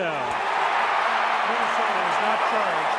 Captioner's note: crowd cheering